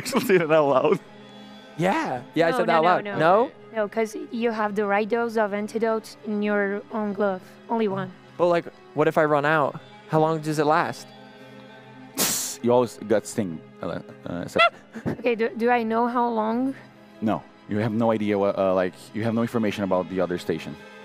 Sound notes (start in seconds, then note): 12.2 tshhh